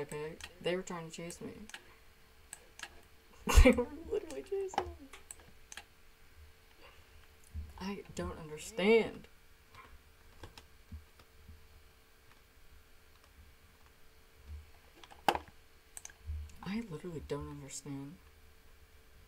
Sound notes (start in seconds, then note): 5.0 laughter; 5.7 mouse clicking